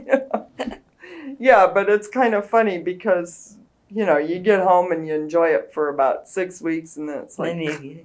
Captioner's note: laughs